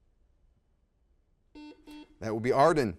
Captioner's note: buzzer beeps